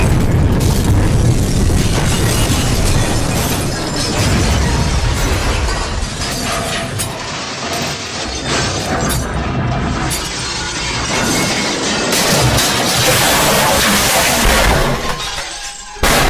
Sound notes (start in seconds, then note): 10.1 objects crashing and falling